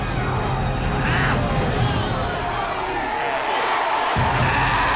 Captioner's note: crowd cheers